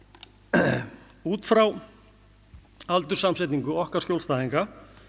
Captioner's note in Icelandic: ræskir sig